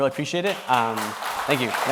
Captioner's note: audience claps